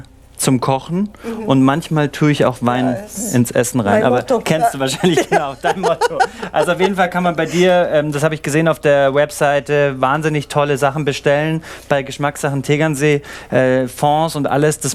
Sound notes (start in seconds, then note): 3.9 laughing